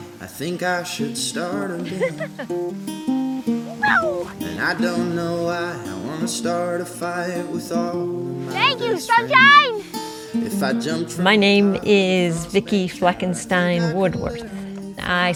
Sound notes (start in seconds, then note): 1.5 laughing